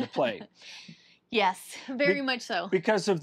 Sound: laughs

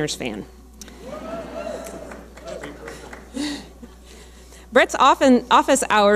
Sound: audience cheering

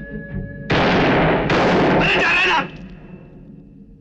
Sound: gunshot

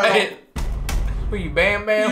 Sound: slams

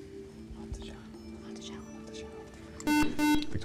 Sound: whispering

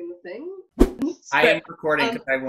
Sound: whoosh

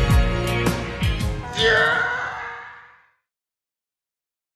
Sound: loud Fading Screech

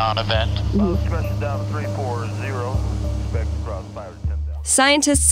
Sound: voice on radio speaking

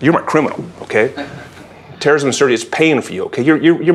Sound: laugh

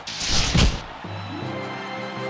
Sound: cheers and applause

